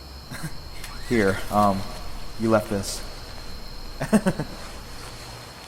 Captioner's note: laughs